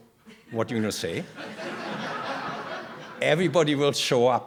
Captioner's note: laughter